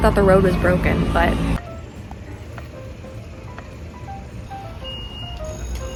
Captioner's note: bridge lifts up to let boats through